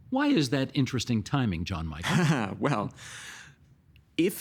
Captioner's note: chuckling